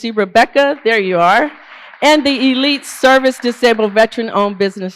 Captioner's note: applause